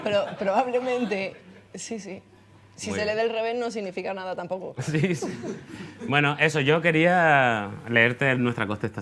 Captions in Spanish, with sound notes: Pero... probablemente... si se lee del revés no significa nada tampoco. (RIENDO) Sí. Bueno, eso, yo quería... leerte nuestra contestación